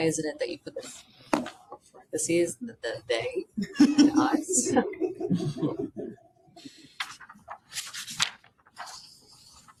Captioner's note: laughter